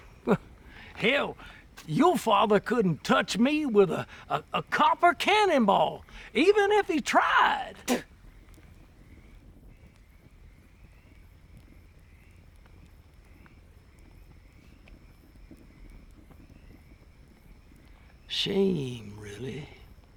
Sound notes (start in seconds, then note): 0.2 chuckles; 7.2 Marisol spits